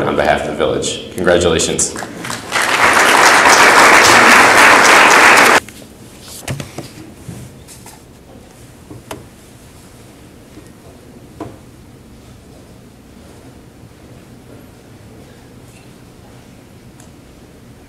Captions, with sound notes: on behalf of the village. Congratulations. (audience applauds)